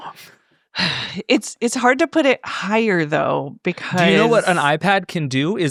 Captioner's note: sighs